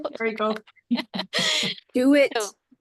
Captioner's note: chuckles